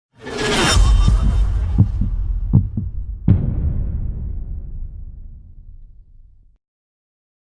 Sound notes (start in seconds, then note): 0.2 spiraling sound; 0.8 drum beat; 0.9 eartbeat